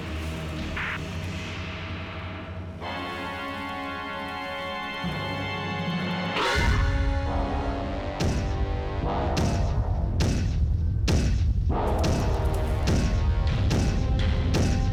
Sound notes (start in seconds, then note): 5.7 thunderous stomps; 11.1 suspenseful orchestral music